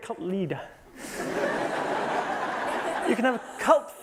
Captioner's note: laughter